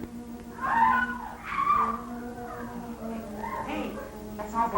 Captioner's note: screaming